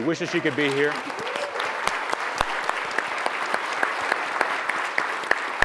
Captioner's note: audience applauds